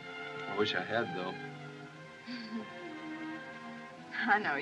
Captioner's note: chuckles